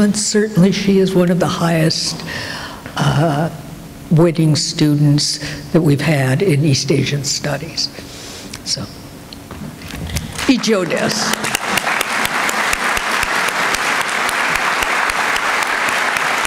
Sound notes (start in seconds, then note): 8.9 non-english; 10.2 applause